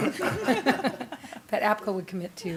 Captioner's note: laughter